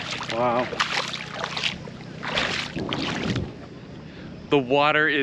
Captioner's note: water splashing